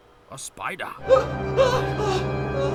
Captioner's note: screaming